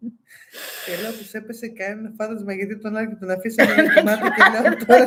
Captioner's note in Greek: γέλια; γέλια